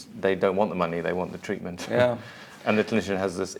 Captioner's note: laughs